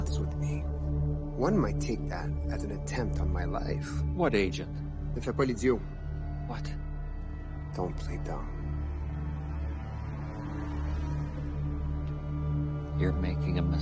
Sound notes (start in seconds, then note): 4.8 LaFleur speaking in French; 9.5 uneasy music continues